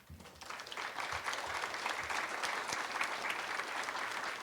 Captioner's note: audience applauds